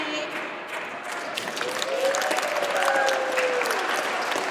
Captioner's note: audience applauds